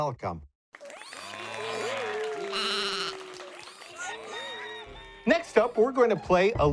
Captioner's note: animals applauding; goat bleating